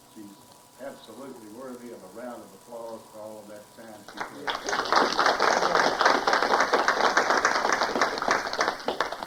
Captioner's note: applauce